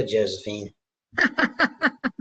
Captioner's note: laughter